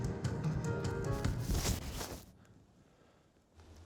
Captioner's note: music stops; thud!